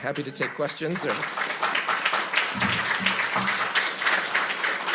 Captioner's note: audience applauds